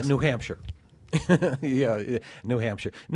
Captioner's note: laughter